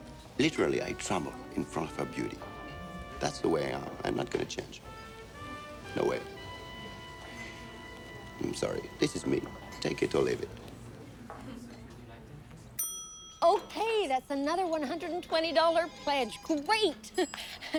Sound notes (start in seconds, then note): 12.8 bell ringing